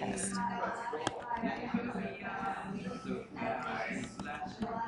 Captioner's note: stylus taps